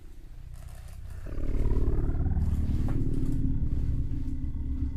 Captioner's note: air quavering